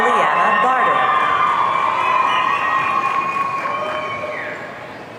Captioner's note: audience cheering